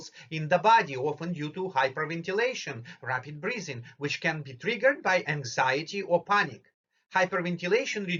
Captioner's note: rapid breathing